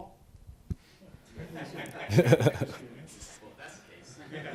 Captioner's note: all laughing